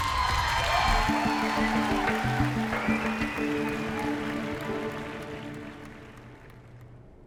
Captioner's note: cheering